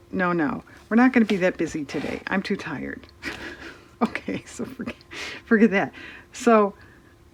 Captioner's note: laughs